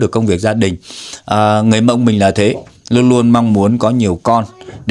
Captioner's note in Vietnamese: khịt mũi